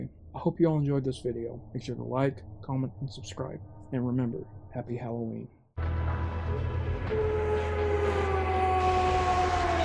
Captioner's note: lycans howling